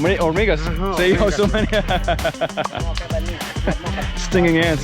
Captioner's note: speaking in foreign language; both laughing